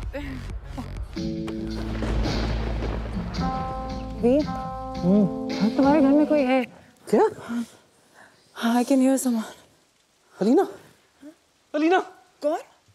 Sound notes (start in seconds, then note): 0.2 Lavina laughs; 1.6 thundering